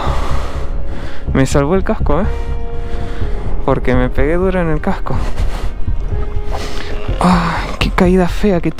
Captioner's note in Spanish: resoplido